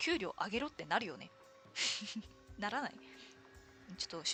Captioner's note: laughs